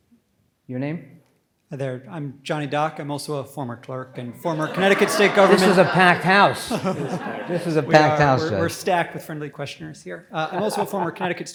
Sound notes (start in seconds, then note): 5.8 audience laughs